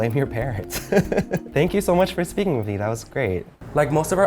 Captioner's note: laugh